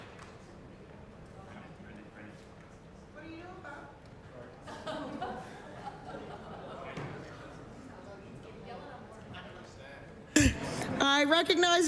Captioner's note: applause